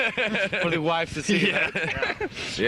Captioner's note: all laughing